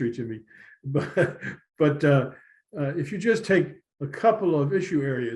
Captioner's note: laughter